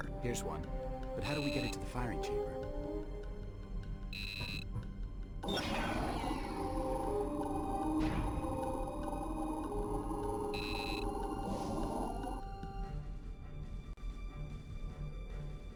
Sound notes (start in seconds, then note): 4.1 beeping; 5.5 explosion; 8.0 beeping